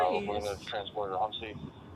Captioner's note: radio chatter